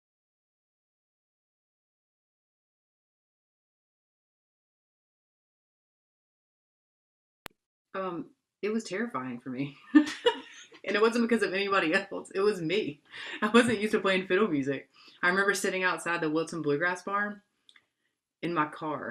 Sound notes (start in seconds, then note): 9.9 laughter